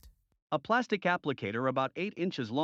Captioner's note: voiceover